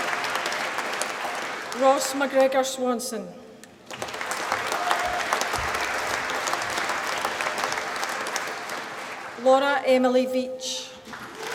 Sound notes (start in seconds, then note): 3.8 applause; 11.0 applause